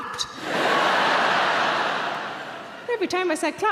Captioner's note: audience laughing